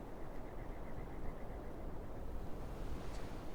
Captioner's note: quiet desert ambience